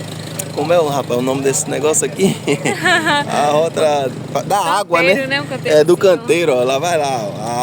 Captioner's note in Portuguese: risadas